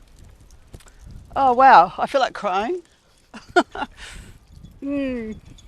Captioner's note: laughs